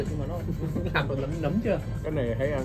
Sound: laughs

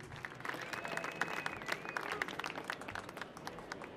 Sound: applause

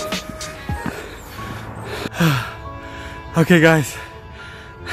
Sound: menghela nafas dulu

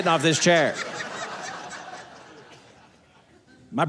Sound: audience laughing

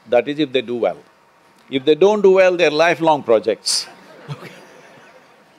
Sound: laughter

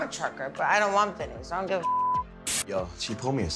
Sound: beep

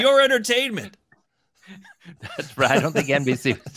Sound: laughter

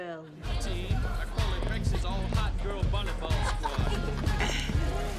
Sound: distant chatter

